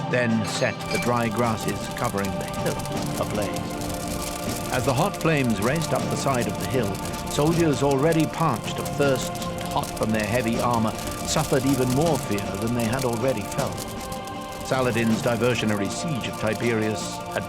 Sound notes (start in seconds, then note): 3.6 fire crackling; 3.6 suspenseful music